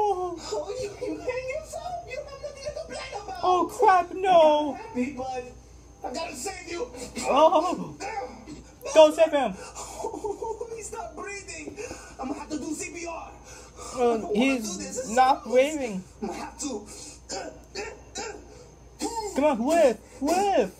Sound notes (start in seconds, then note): 6.1 exclaiming; 7.1 Chef Pee Pee grunting; 17.1 grunting, blowing